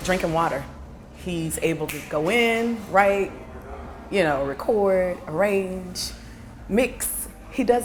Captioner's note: snaps